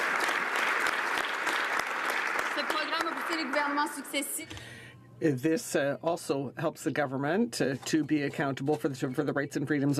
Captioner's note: some Applause